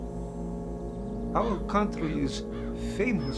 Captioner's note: bird cawing